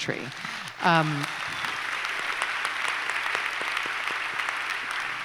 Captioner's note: applause